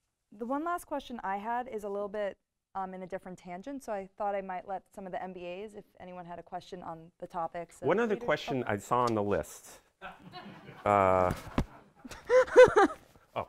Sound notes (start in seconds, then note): 10.2 audience laughing; 12.0 laughs